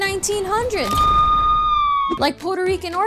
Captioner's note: police sirens